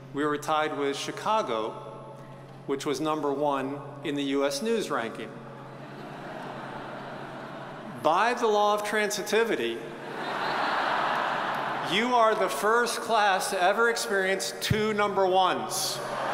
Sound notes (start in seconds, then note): 5.7 audience chuckles; 10.0 audience chuckles; 16.1 audience cheers and applauds